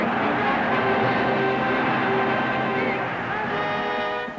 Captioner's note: crowd chanting